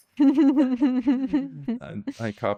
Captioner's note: laughing